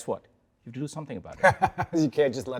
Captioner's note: Baratunde laughs